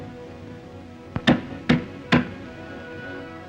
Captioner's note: hammering